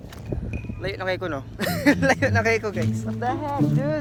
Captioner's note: laughs